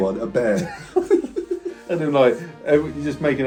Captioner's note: both laughing